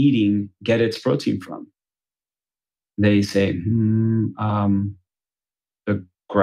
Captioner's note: laughs